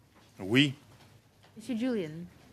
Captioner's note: speaking French